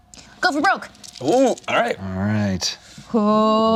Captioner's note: dice rattling